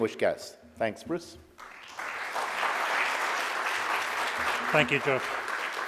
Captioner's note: audience applauding